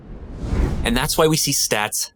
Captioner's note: wind whooshes